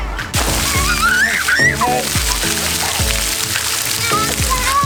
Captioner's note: water splashing